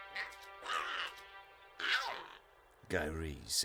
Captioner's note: Giree grumbles